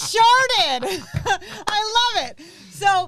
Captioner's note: laugh